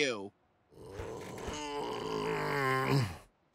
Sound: groaning

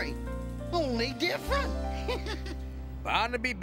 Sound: laughs

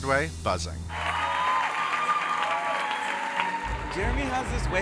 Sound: audience cheering

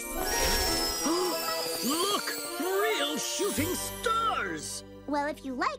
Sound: gasps

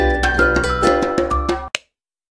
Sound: light clicks off

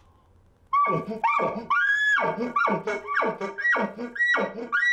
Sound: chuckling elk call

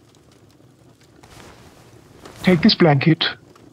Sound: fabric rustles

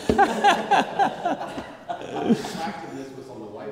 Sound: laughter

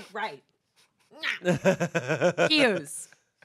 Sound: laughs

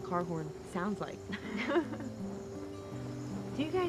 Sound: laughs

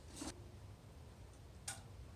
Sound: click

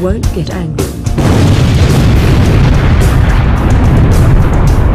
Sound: explosion

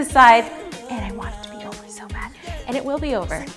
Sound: whispers

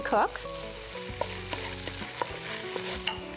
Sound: pan sizzling

